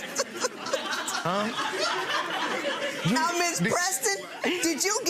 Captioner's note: laughing